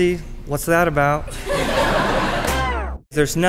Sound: laughing

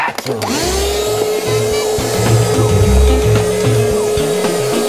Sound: vacuum suction

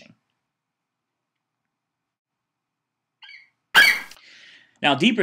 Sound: FlightCheck eagle screeches

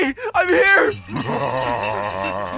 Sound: laughs

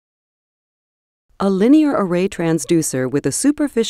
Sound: voiceover

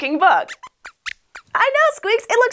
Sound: squeaks squeaks

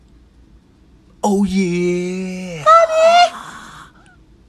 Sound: screams offscreen

